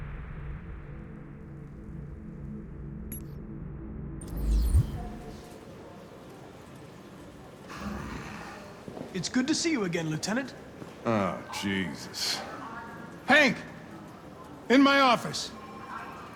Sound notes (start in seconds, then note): 7.6 grumble